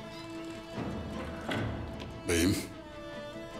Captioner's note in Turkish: Kapı kapanma sesi